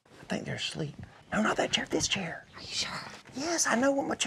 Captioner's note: whispering